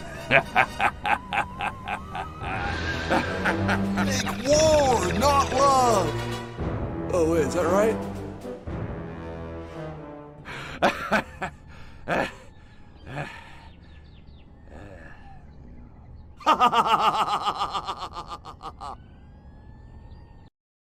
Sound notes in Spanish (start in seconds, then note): 0.0 Risotada de soviético desquiciado; 10.5 Más risotadas de soviético desquiciado; 16.4 Risa de soviético pelota